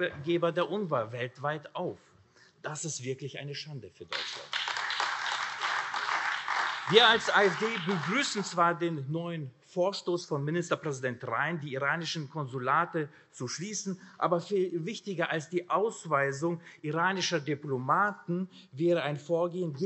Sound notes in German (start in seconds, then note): 6.4 Beifall AfD